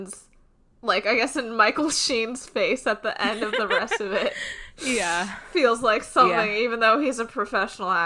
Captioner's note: both laugh